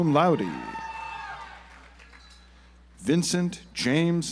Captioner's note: audience applauds